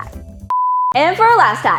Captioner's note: beeping